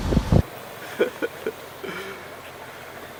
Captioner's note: laughing